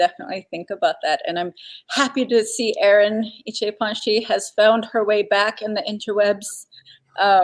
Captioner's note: speaking Dakota